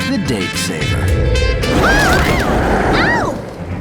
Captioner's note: loud scary growl